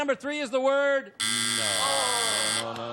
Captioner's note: buzzer